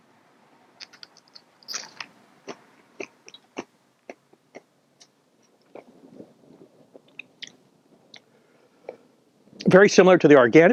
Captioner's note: chewing